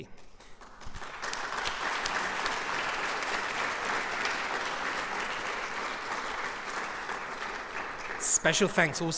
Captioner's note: applause